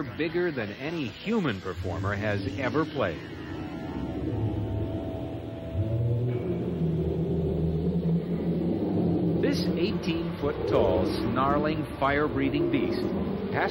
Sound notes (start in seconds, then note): 3.9 ominous synth music; 7.0 dragon howling